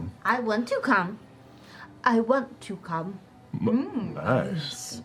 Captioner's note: with an accent